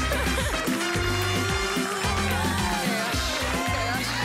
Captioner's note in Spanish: Gritos y exclamaciones